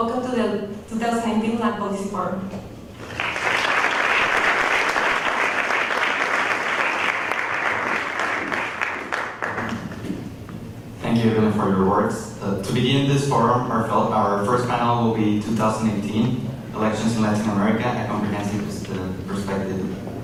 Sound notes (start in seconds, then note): 3.0 applause